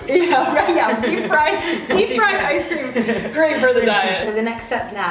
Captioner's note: laughter